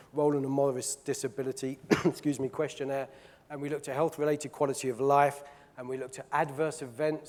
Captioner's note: coughs